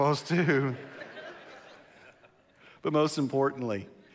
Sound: congregation laughs

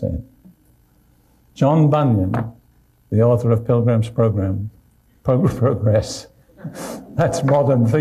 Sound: laughs

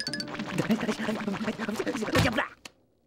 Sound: grunting

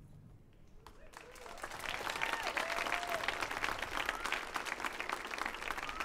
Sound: audience cheers and applauds

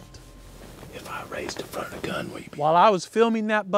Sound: whispering

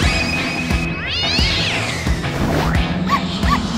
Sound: cat screeches; dog yipping

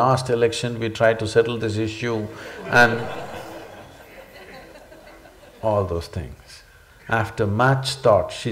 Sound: laughter

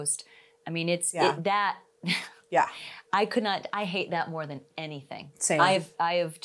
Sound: chuckles

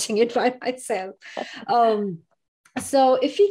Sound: laughs

